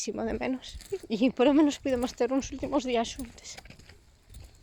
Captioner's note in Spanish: con la voz tomada